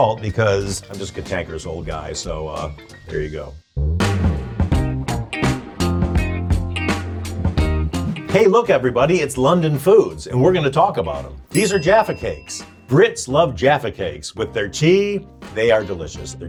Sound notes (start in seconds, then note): 3.8 upbeat music; 11.5 bell dings